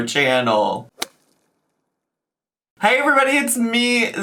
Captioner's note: logo thuds